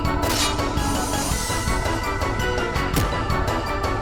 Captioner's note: sword clanks; blow thuds